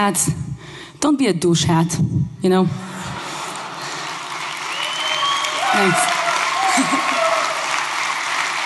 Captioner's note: laughing